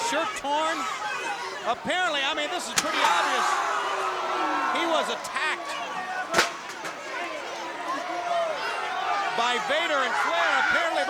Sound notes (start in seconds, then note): 6.9 chair thudding